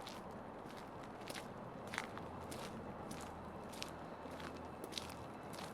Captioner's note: footsteps